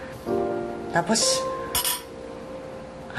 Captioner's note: cutlery clinks